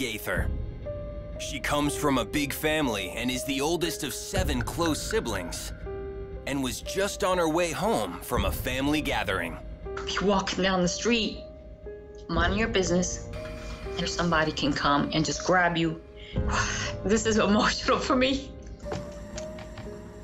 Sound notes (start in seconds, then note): 16.2 sigh